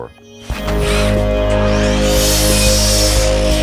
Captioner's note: saws whir